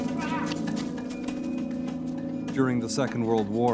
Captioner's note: men yelling